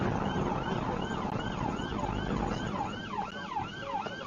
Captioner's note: police car siren